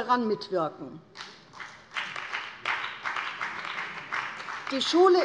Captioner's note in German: Beifall bei der CDU und dem BÜNDNIS 90/DIE GRÜNEN